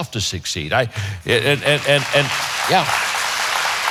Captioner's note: audience applauding